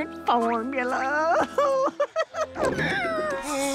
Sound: laughing

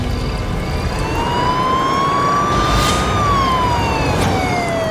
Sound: police siren blaring

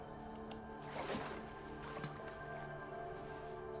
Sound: water splashing

